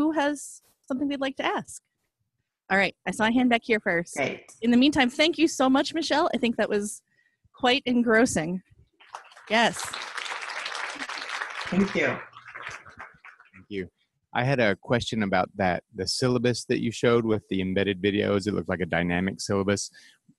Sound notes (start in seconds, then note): 9.0 applause